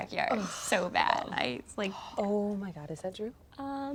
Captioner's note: Ashley groans